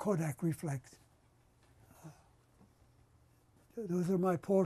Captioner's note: pauses for 3 seconds